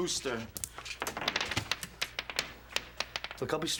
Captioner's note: marbles hitting floor